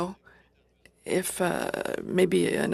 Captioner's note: speaking French